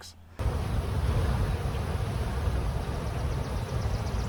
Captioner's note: bees buzzing